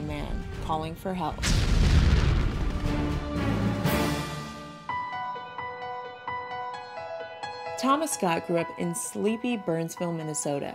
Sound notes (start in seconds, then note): 1.4 sounds of bombs exploding; 6.1 piano music